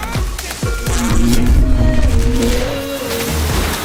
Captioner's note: buzzing